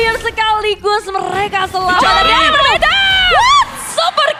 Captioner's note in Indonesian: berteriak